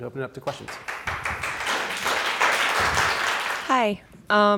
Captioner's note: audience applauds